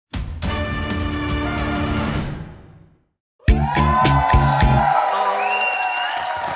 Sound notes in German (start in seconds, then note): 0.2 Dynamische Musik; 3.4 Jubel, Applaus